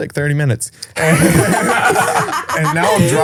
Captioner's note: all laughing